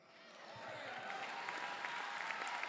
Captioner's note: applause